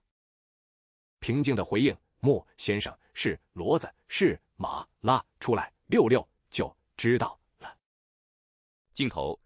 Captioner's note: calmly